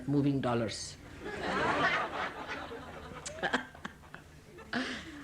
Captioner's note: all laugh